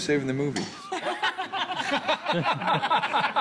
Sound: all laughing

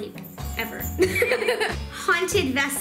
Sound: laughs

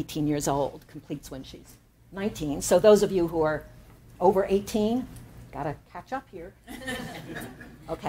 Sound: laughter

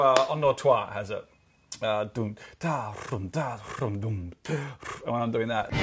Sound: imitates drums

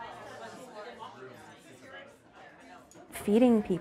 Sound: group chatter

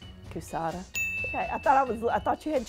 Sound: bell chimes

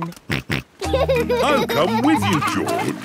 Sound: snorts and laughs

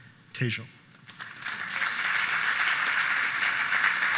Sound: applause

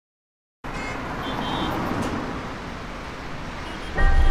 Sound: cars honking

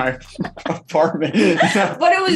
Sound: laughing

